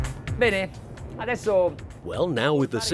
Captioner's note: driving electronic music; speaking foreign language